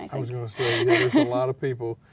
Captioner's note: laughs